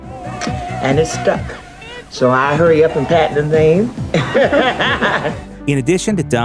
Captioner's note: laughs